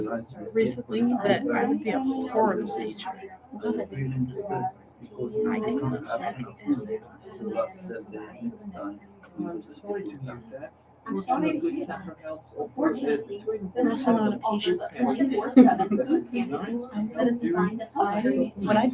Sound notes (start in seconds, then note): 2.8 chatter